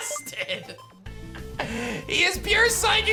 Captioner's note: giggles